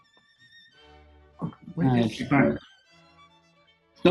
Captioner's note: muttering